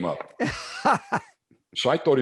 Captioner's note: laughs